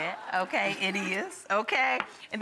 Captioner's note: audience laughs